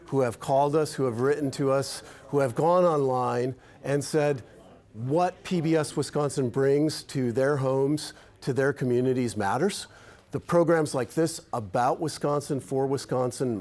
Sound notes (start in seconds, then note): none